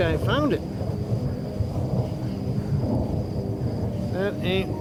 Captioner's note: thunder